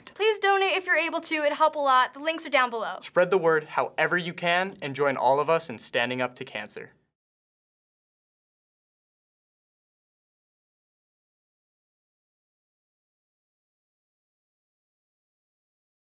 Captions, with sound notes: - Please donate if you're able to. It would help a lot. The links are down below. - Spread the word however you can and join all of us in standing up to cancer. (silence)